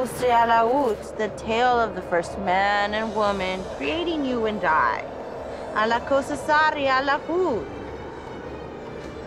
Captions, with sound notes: The tale of the first man and woman creating you and I. (speaking foreign language)